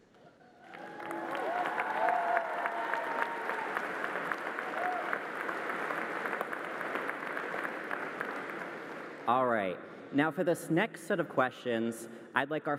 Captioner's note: applause